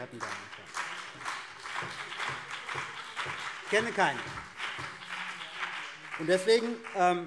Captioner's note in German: Beifall CDU und BÜNDNIS 90/DIE GRÜNEN